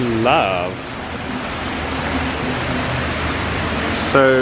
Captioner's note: water gushing